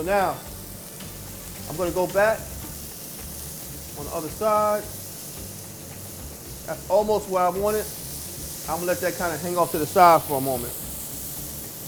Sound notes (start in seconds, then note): 8.0 food sizzling